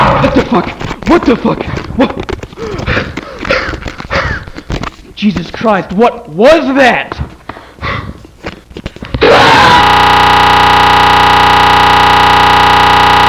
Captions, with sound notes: What the fuck? What the fuck?! Wh-- [heavy breathing] Jesus Christ, what was that?!